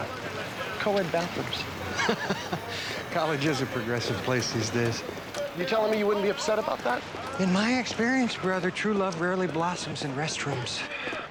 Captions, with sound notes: - Check this out. Co-ed bathrooms. - (laughing) College is a progressive place these days. - You telling me you wouldn't be upset about that? - In my experience, brother, true love rarely blossoms in restrooms.